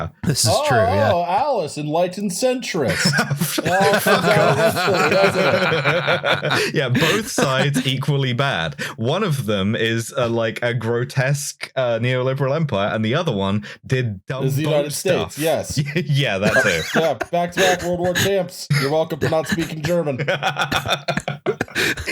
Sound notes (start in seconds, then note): 2.8 laughter; 16.4 laughs; 21.6 laughs